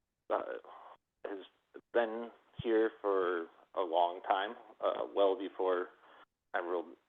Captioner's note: by phone